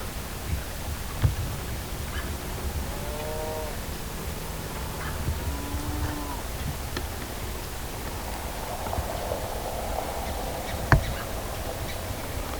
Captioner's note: cattle mooing in the distance, birds chirping